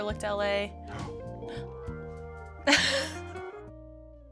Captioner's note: gasping; laughing